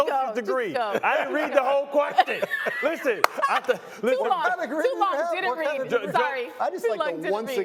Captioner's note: laughter